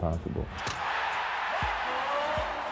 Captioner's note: cheering